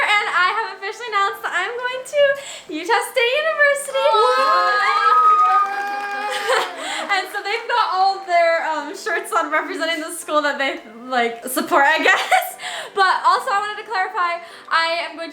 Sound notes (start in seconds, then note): 3.9 everyone cheering; 12.1 laughs